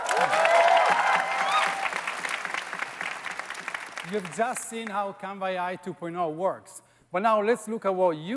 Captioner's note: applause